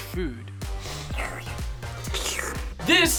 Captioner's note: upbeat music; staff slurping